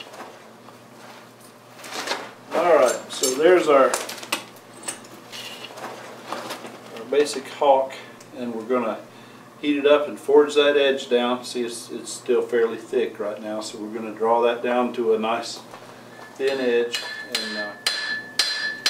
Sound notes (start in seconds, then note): 16.9 hammering